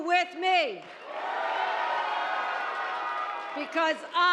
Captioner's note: audience cheering